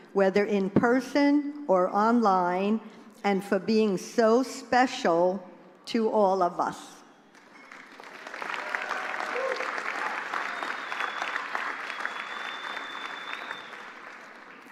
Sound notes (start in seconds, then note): 11.2 applause